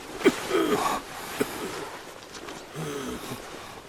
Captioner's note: coughing